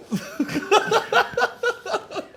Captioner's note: laughter